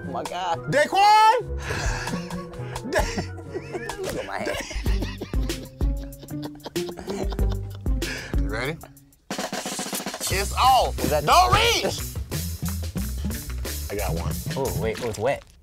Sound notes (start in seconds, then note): 0.1 both laughing; 4.1 laughing